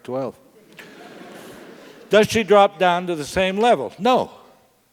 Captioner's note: laugh